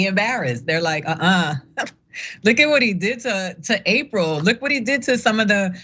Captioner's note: laugh